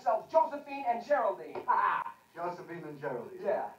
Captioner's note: laughs